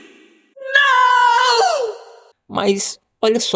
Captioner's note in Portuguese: grito